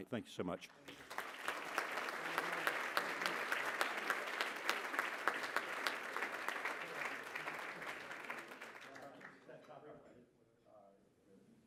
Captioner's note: applause